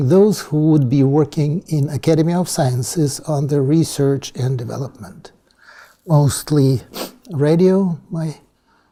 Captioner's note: Russian